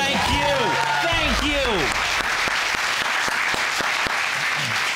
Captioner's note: all clapping